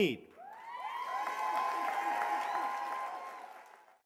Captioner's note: cheers and applause